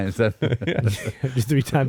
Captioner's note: laughing